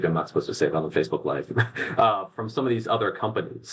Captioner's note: laughs